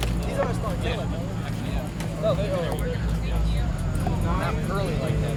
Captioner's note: group chatter